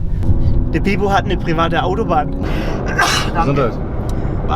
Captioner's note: hatschi